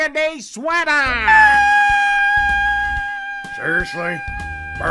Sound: Horrified pepper screamings

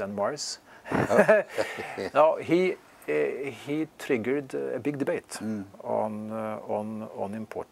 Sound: laugh

